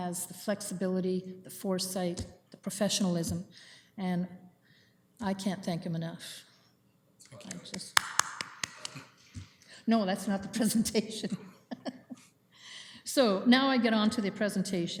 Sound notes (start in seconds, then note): 7.5 applause; 11.2 laughing